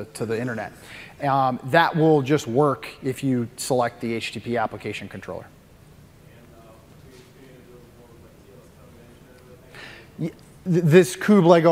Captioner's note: off mic